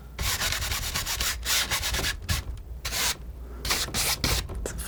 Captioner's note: scratching